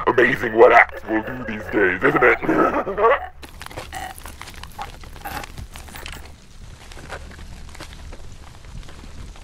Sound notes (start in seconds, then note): 3.6 laughs; 5.1 filmer gasping for breath